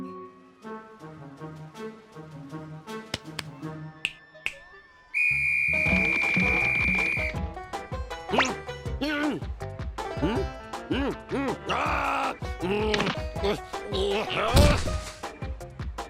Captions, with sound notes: (snaps fingers) (whistle blows) NNH! NNNH! HMM? HMM? HMM? AAH! NNH! NNH! NNH! AHH!